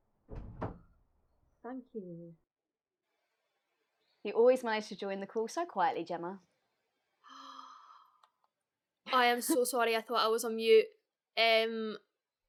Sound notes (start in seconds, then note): 0.2 sound of door shutting; 7.2 gasp